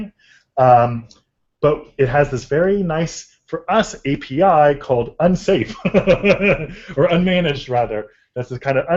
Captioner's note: laughter